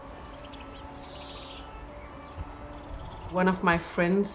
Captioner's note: soft dramatic music; birds chirping